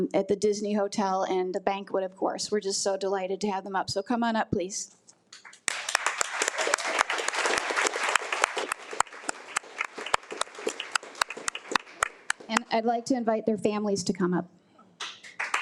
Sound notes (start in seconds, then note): 5.4 attendees applaud